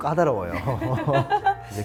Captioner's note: laughs